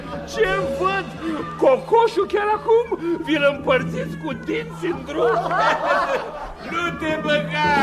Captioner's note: laughter